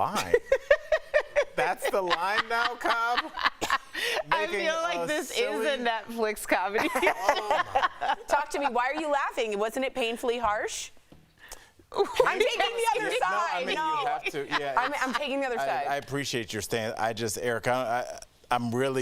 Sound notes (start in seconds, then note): 6.7 laughter; 12.0 laughter